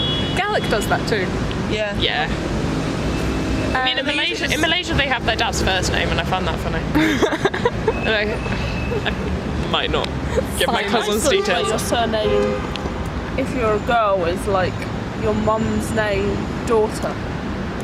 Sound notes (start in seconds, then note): 6.9 laughs